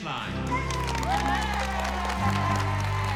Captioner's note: cheering and applause